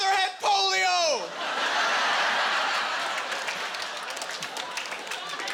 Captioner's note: laughing